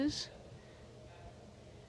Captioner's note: speaking in french